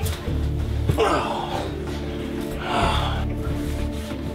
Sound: sighs

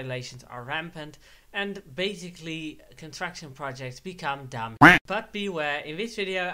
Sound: quack

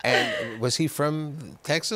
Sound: laughter

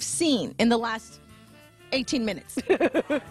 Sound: laughter

